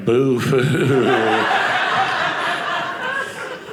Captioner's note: audience laughing